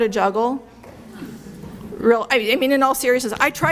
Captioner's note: murmuring